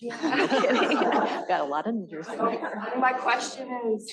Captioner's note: laughter